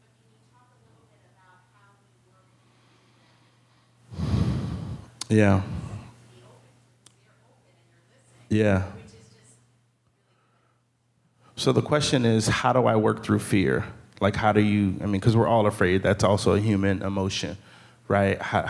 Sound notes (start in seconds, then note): 3.4 speaking faintly; 10.5 speaks faintly